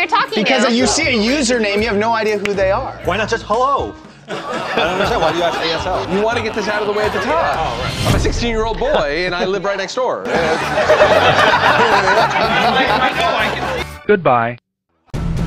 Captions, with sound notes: ROOM. WHY ARE YOU ASKING THAT? IF YOU SEE A USER NAME, YOU HAVE NO IDEA WHO THEY ARE? WHY NOT JUST HELLO? YOU WANT TO GET IT OUT OF THE WAY. I AM A 16-YEAR-OLD BOY, AND I LIVE RIGHT NEXT DOOR. [LAUGHTER]